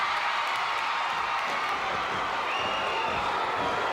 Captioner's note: crowd cheers